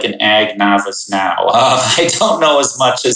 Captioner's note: laughs